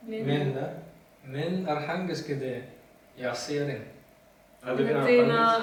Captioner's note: trying to speak Turkmen